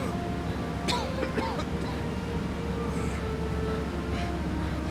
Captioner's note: coughing